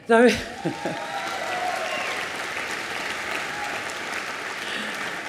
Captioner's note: applause